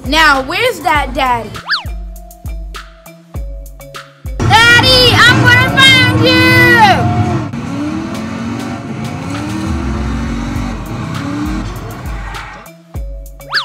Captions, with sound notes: Now where's that daddy? (funky music) - Daddy I'm gonna find you! (engine revving) (funky music)